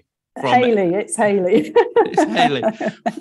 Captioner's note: laughs